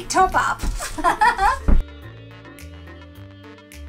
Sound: laughing

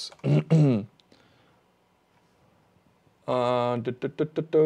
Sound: clears throat

